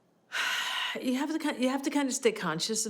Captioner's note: sighs